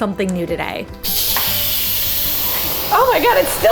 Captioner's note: pressure cooker whizzing